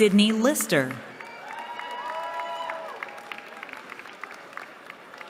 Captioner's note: cheering